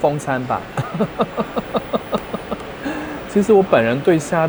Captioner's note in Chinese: 笑聲